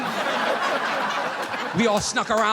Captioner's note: audience laughing